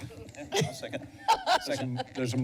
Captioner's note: laughter